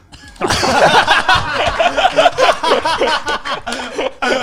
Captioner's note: laughing loudly